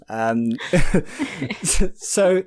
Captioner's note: laughing